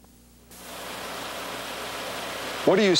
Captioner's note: engine running